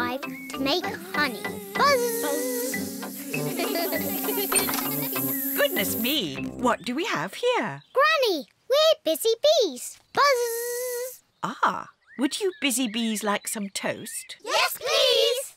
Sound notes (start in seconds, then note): 3.2 all laugh